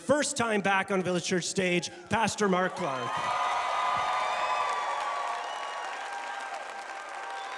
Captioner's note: congregation cheering